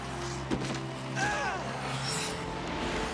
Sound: crowd Cheering; grunts

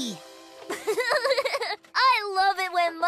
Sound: giggling

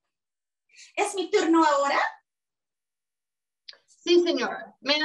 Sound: speaking Spanish

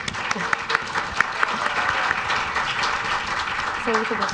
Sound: audience claps

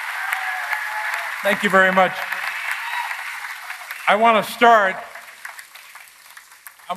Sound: applause

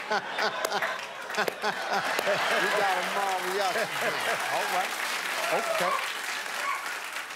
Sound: laughter; cheers and applause

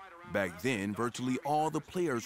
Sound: crowd cheering

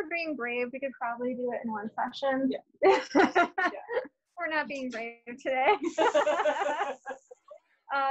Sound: laughter

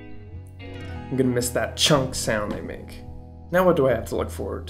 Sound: chunk

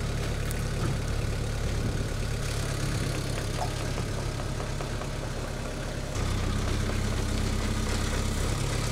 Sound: none

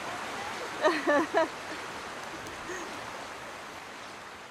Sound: laughing

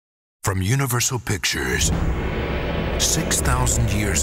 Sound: voiceover

